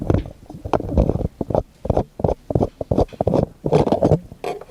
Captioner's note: mic thumping